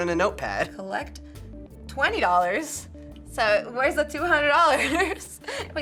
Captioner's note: laughs